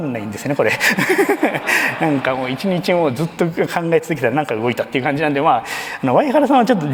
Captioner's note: laughs